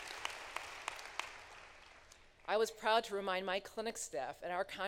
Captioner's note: applause